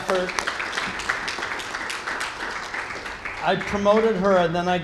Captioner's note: applause